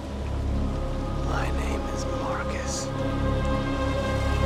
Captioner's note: hoarse; crescendos